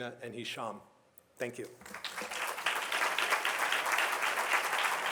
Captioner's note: audience applauds